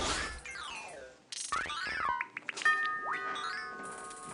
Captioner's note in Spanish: Sonido del videojuego; Timbre de la puerta